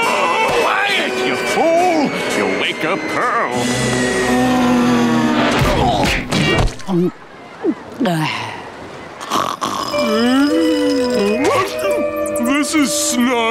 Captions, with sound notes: Quiet you fool! You'll wake up Pearl. [grunting] [sighing] [snoring] [groaning] This is snug.